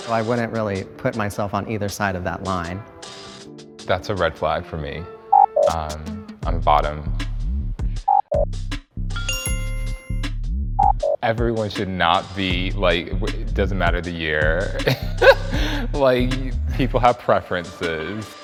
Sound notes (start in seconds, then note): 5.6 sound effect blips; 9.2 sound effect blips; 9.2 bell chimes; 11.0 sound effect blips; 14.8 laughs